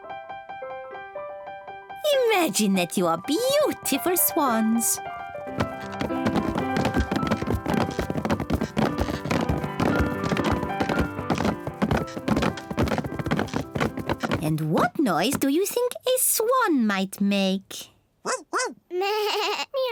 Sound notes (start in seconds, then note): 5.7 all stomping